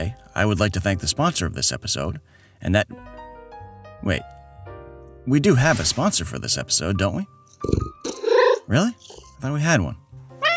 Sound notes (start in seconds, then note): 8.1 meow; 10.4 disappointed meow